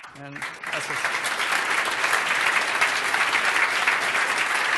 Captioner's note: applause